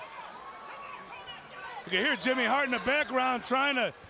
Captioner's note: crowd chatter